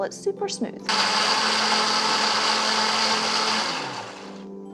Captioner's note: whirring sound